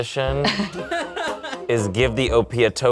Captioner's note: group laughs